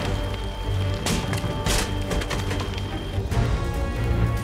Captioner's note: wood splinters